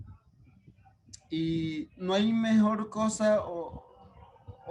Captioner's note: speaking Spanish